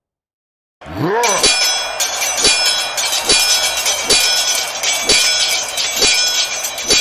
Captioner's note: all grunting; swords clanging